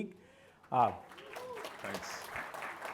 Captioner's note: applause